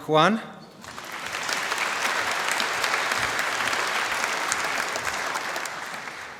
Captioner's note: applause